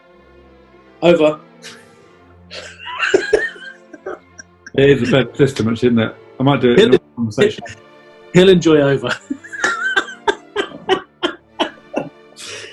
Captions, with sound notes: ...Over. [GIGGLING] It is a better system, actually, isn't it? I might do it in normal conversation. He'll enjoy 'over'. [LAUGHING]